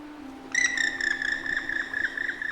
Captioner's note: bird chirping